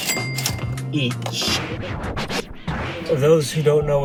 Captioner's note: cash register chime; record scratching